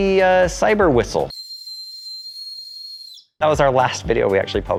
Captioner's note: whistle trilling